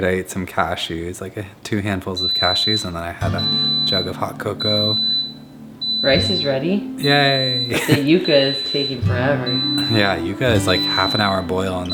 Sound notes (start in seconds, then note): 4.5 rice cooker beeps